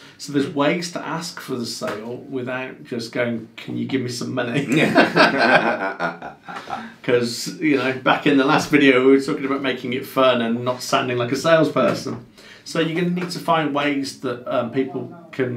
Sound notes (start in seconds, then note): 4.6 both laughing